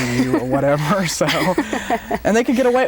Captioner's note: both laugh